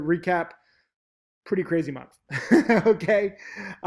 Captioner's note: laughs